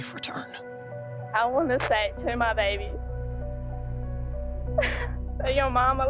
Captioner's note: sobs